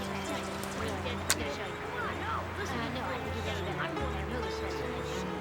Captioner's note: everyone talking inside house